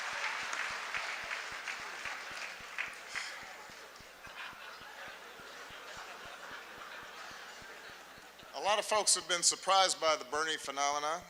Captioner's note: laughter, applause